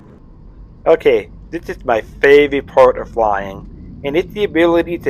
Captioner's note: voiceover